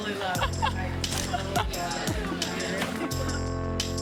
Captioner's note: laughs